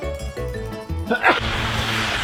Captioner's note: sneeze